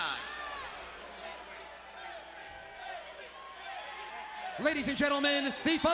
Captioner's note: crowd cheering